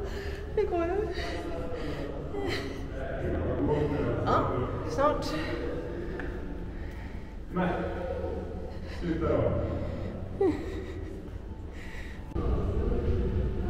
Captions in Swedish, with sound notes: Hur går det? Gå upp nu då! Ja snart! Men, sluta då! (Skratt)